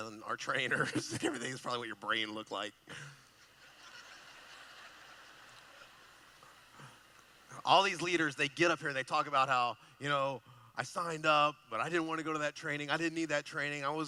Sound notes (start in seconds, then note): 3.1 laughing